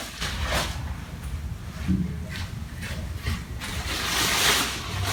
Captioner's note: fly sheet rustles